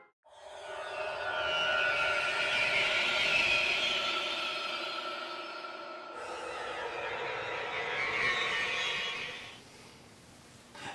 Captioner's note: creepy sound effect